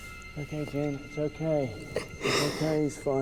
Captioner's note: Jen sobs